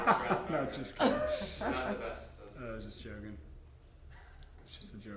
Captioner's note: laughter